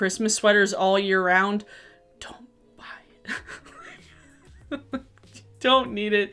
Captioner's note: laughs